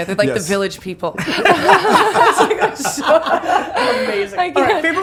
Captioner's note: all laughing